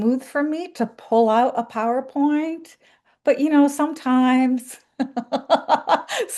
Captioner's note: laughs